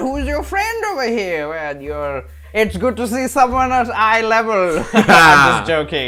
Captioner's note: laughter